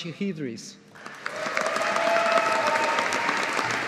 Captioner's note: audience applauding